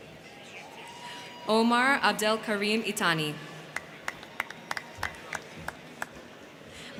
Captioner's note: crowd cheering